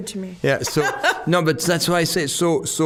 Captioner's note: laughing